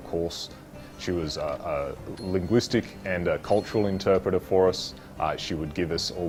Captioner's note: bell tinging